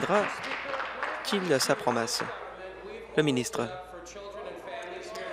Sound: applause

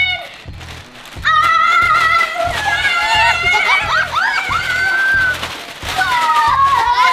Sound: yelling; laughter continues

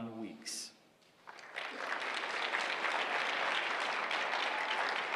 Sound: applause

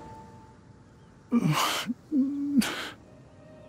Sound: whimpers

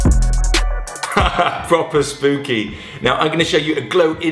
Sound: laughs

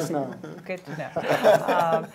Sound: laughing

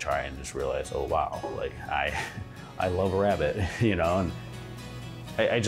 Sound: laughing

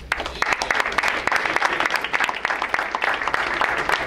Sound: crowd applauds

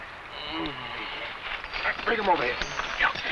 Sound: man groans

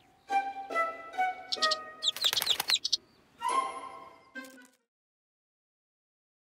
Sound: playful music; tweeting

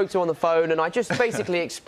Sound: laughter

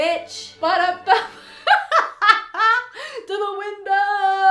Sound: laughing

